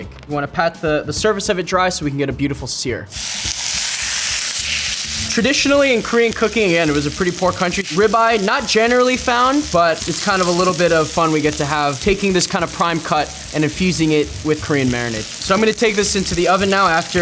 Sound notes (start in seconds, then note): 3.4 pan sizzling